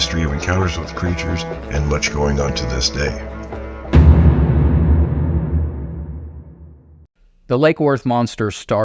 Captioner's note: dramatic boom